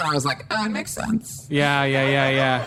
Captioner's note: audience laughter